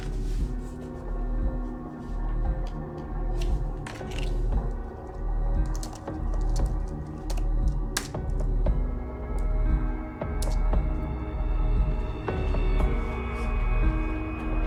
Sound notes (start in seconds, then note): 5.4 keys tapping